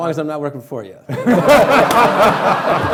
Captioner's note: laughing